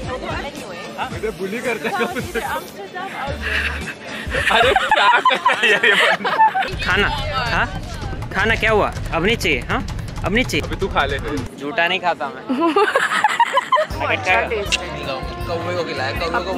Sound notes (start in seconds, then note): 12.5 more laughter